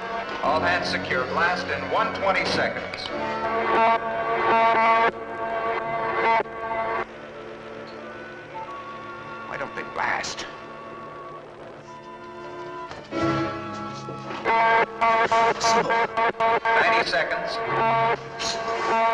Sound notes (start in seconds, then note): 0.0 buzzing; 3.8 buzzing; 14.8 buzzing; 17.2 loudspeaker